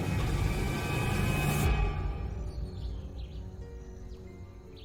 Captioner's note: birds chirping